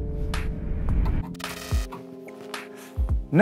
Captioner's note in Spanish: Zumbido eléctrico